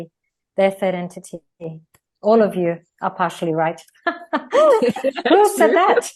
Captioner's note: Rires